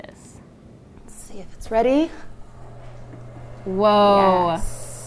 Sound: convection oven far purrs

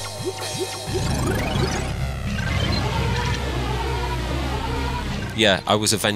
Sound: machinery whirring; ships whirring

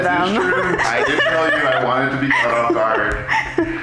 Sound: both laughing

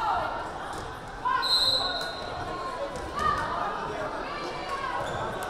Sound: whistle blaring

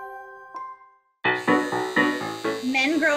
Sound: gentle music; upbeat piano music; electric shaver buzzing

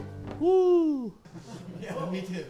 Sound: all laugh

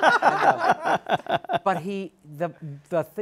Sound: laughter

